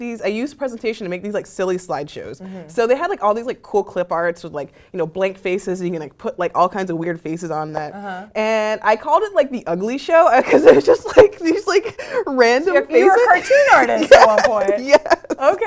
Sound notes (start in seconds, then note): 10.3 laugh